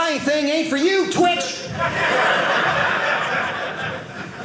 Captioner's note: audience laughing